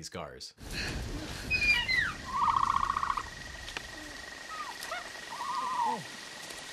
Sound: breathing heavily; dinosaur screeches

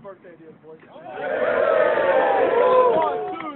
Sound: team cheers

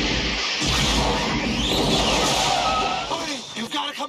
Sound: explosion

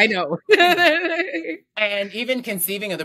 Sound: both laughing

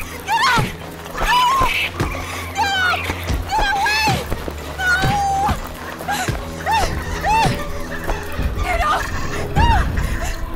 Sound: more screams and whacks

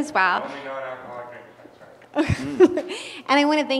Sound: laugh

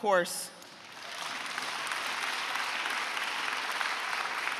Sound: audience applauding

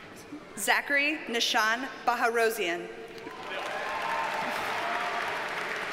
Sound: audience cheers and applauds

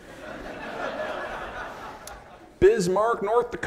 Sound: audience laughing

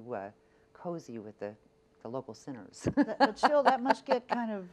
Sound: laughs

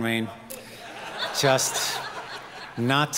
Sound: audience laughing

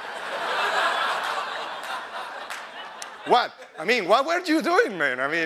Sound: laughter

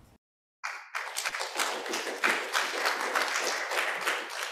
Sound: applause

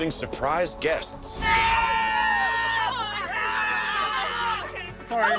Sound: screaming

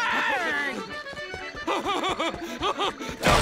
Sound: laughing

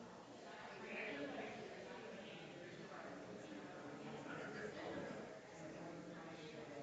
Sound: people chattering distantly continues

